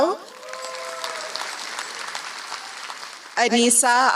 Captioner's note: applause